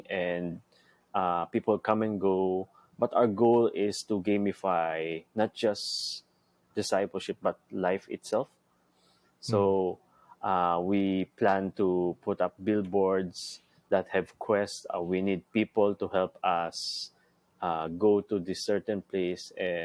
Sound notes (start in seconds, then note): none